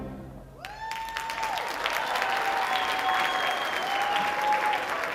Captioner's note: audience applauding